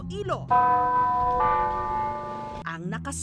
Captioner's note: church bells tolling